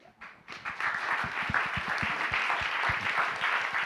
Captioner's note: applause